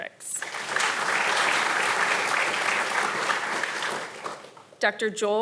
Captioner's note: audience applauding